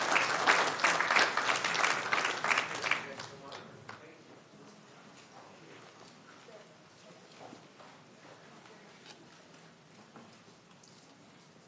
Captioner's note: applause